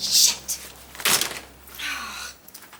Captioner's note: folders clatter